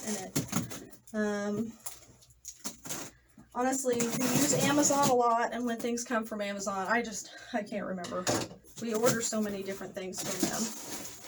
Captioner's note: the opening of box noise commences